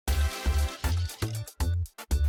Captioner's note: whisks; upbeat music